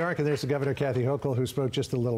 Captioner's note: applause